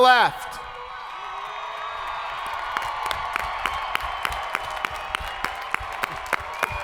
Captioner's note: people cheering; hands clapping